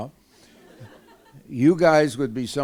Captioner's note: laughter